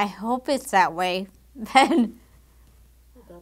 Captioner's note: laugh